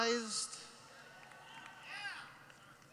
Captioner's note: clapping